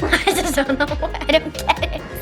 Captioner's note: laughing